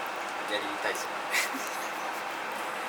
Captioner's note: laughs